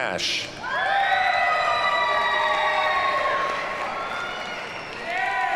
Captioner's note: audience cheers and applauds